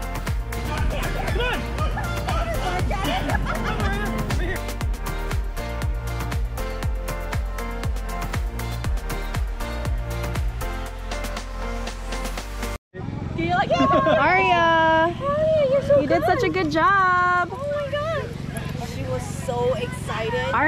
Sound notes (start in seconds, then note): 0.9 dogs barking; 5.1 upbeat music